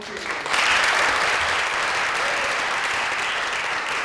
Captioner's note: applause